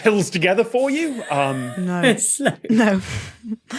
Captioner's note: wheezes